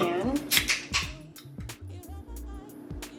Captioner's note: can opening; background music